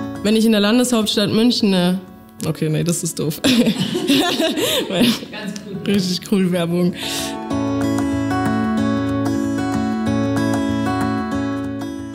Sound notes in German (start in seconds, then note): 3.4 lacht